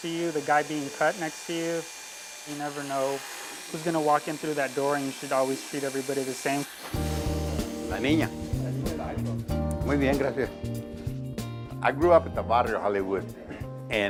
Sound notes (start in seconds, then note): 7.0 upbeat music; 7.5 speaking foreign language